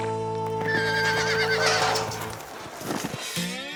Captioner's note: horse neighs